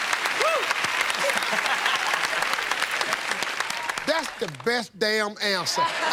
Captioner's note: laughter; laughs